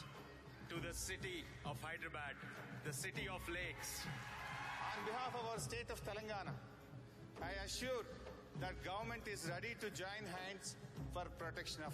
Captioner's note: applause